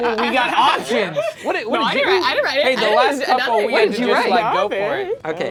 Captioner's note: overlapping chattering